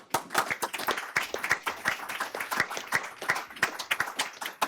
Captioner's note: everyone applauds